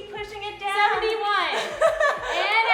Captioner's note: laughing